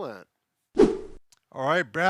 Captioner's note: whooshing noise